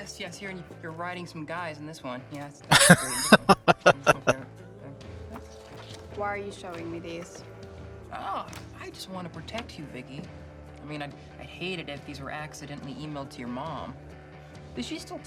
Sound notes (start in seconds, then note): 2.7 laughing